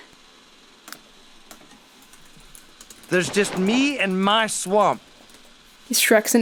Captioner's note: keyboard clicking sounds